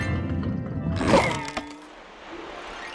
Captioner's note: crate crunches